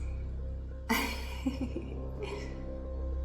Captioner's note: laughs